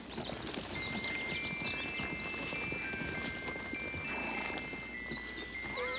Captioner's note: pocket watch chimes melodically; horse neighs